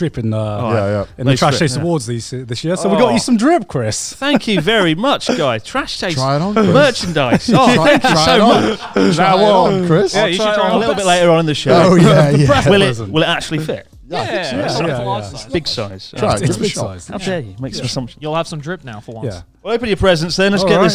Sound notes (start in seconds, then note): 4.2 chuckling; 8.8 all laughing